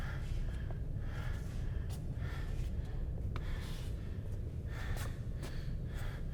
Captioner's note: heavy breathing continues